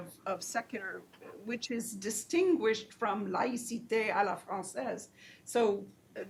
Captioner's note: speaks foreign language